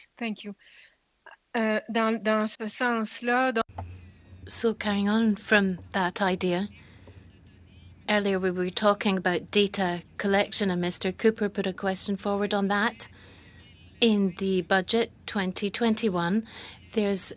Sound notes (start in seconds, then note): 8.0 speaking French